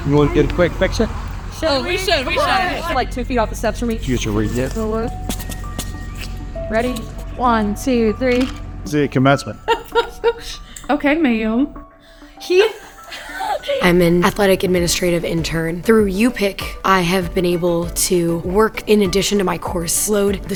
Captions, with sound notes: - You wanna get a quick picture? - Oh, we should, we should! Like two feet off the steps for me. - Did you get your ring yet? - Ready? One, two, three. (camera clicking) - See you at commencement. - (laughing) Okay, ma'am. He! - I'm an athletic administrative intern. Through UPIC, I have been able to work in addition to my course load,